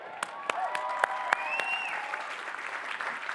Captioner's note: applause